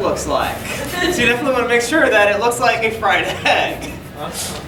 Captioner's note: audience giggling; laughing